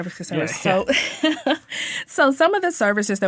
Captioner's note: laughing